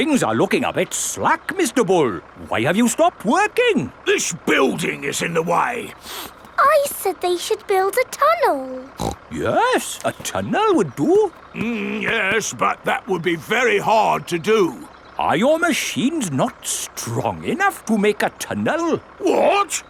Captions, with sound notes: Hmm, things are looking a bit slack, Mr. Bull! Why have you stopped working? This building is in the way! (SNIFFS) I said they should build a tunnel! (SNORTS) Yes, a tunnel would do. Mmm, yes, but that would be very hard to do. Are your machines not strong enough to make a tunnel?